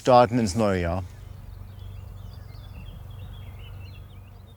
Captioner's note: distant humming, birdsong